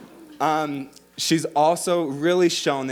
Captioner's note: audience laughing